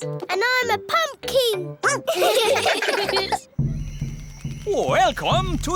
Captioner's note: all giggling; barks